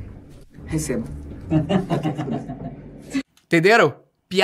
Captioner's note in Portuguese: risadas